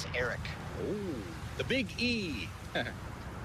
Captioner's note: chuckles